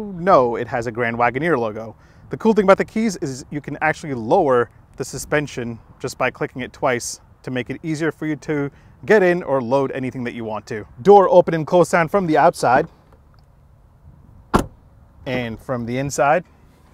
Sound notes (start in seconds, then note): 14.5 thudding sound